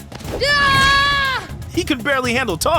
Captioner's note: screaming